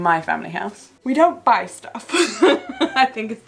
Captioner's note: laughs